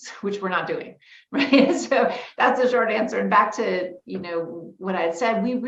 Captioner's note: laughs